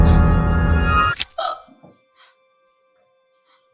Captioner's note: gasps